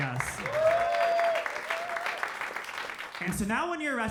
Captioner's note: crowd cheers